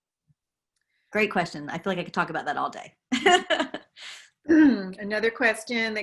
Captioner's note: laugh